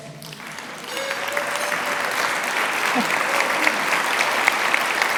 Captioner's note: audience applauds